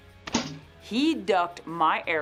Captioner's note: bow thumping